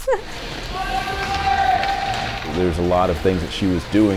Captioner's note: laughs; skates sliding